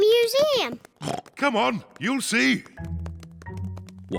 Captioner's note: oinks